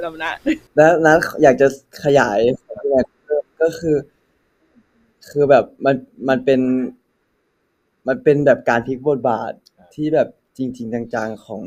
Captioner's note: answering in Thai